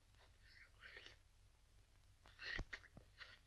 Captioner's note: slurping